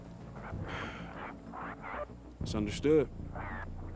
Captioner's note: sighs